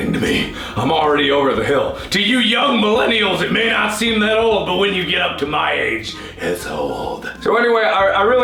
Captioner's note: raspy voice